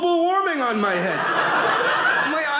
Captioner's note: audience laughing